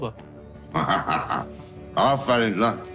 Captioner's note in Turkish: Gülüyor